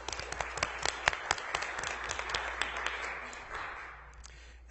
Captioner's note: applause